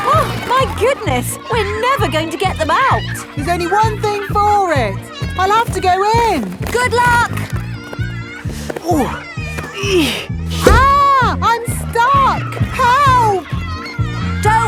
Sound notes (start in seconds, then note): 0.0 giggling; 9.7 grunting